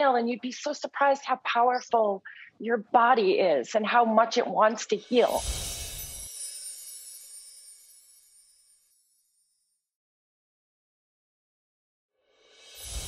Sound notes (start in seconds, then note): 5.3 chimes ringing